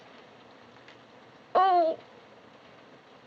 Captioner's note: groans